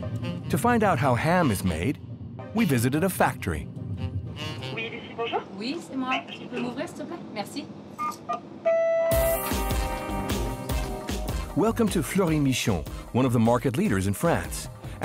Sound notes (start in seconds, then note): 8.0 electronic beeping; 8.7 bouncy jazz music